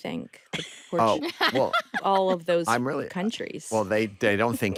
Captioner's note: laughs